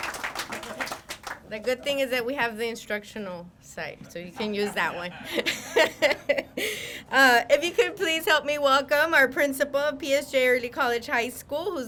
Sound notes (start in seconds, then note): 6.7 laughs